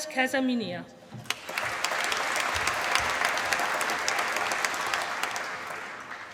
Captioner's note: applause